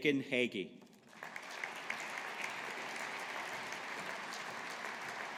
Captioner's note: audience applauding